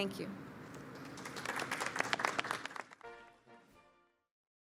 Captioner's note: applause